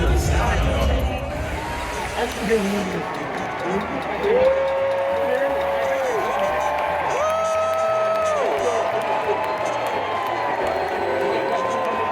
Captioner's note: crowd Cheers